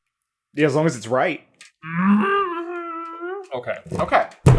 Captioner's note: a very Muppet-esque MMmmmMmmmmMMMM